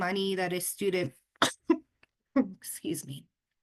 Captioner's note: coughs